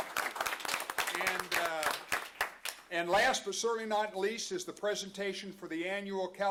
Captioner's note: applause